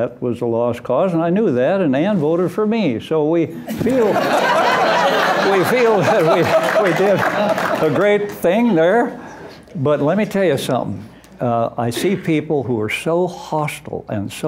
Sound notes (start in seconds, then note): 3.6 laughter